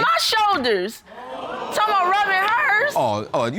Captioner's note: audience gasps